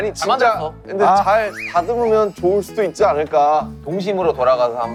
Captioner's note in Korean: 조심스럽게